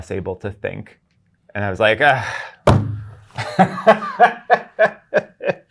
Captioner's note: guy laughing